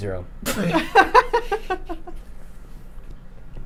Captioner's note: laughing